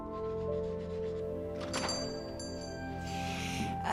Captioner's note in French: cloches qui sonnent